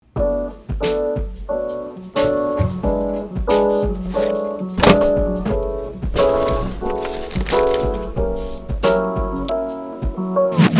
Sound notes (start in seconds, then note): 0.2 relaxing music; 4.7 doors clattering